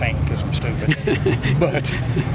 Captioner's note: laughs